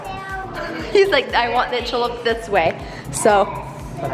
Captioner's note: laughs